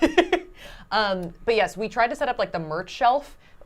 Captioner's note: laughing